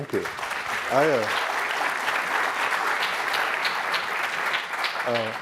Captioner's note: audience clapping